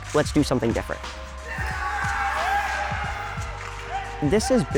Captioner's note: hockey players cheering